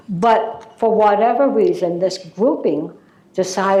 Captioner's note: none